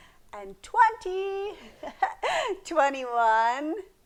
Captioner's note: laughs